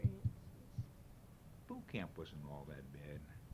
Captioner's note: sound of pounding